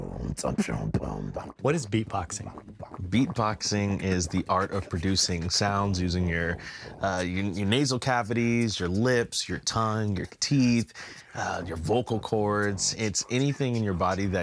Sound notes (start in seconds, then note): 0.9 beatboxing